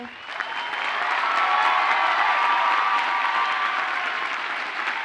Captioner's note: audience cheers and applauds